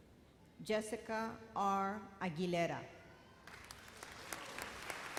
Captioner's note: applause